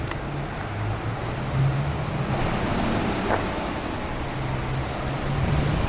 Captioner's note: traffic Noises